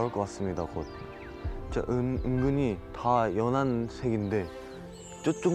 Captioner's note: hearts beating